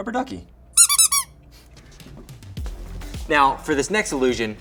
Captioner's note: duck squawks